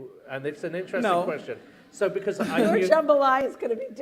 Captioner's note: laughter